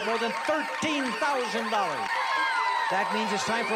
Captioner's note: alarm